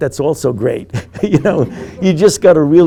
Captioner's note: group laughing; laughing